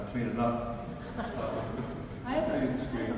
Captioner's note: audience laughs